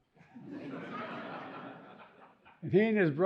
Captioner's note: audience chuckling